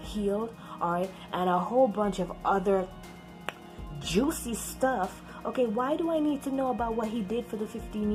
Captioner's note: smacks lips